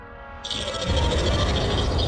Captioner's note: growls